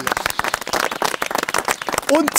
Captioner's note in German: Applaus